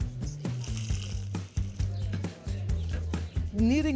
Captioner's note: speaking greek